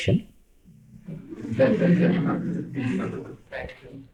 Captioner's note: laughter